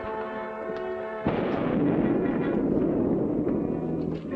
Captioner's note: loud thunderclap